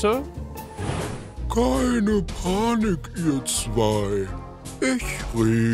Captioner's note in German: Muntere Musik; gähnende Stimme